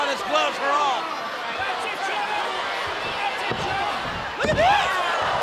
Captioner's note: crowd yelling